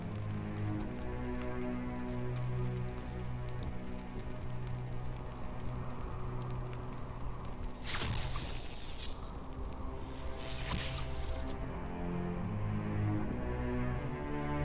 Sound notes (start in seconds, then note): 0.1 suspenseful music; 7.7 electricity zapping